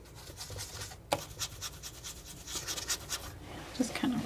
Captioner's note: scratching